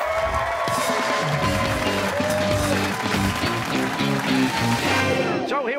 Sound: cheers and applause

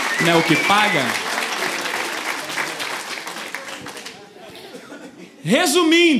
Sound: applause

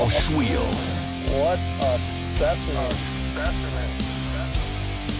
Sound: voiceover

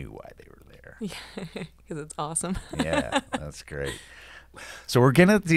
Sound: laughs

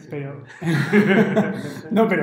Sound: laughter

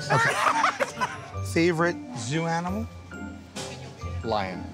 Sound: laughter

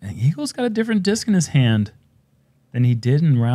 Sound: none

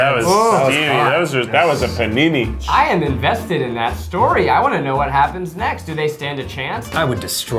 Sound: sighing

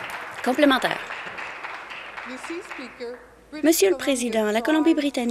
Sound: applause

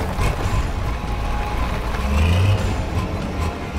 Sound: engine roars

